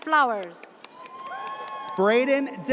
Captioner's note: audience cheers